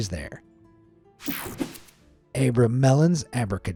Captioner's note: screen whooshing